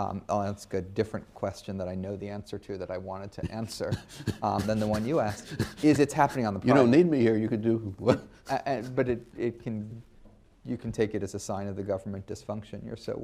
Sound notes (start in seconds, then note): 5.9 laughs